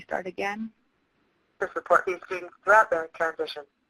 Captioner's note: voiceover